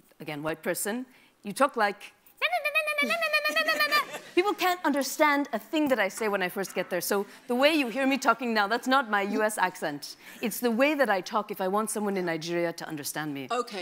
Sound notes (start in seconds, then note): 3.4 audience laughs